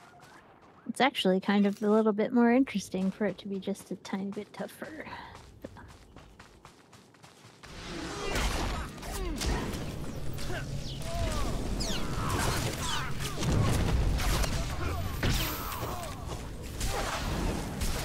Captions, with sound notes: It's actually kind of a little bit more interesting for it to be just a tiny bit tougher. [gunshots]